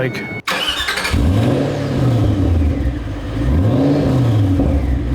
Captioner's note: engine revving